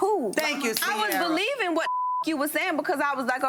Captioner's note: beep